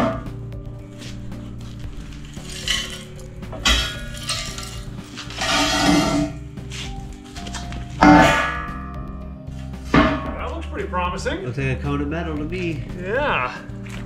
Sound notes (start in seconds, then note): 0.3 smooth, melodious music; 3.5 clunking metal; 7.0 smooth, melodious music